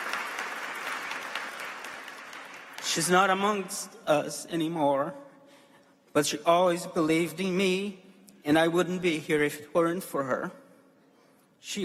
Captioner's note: applause